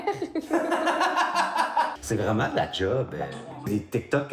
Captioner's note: laughs